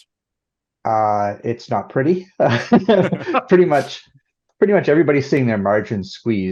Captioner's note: laughter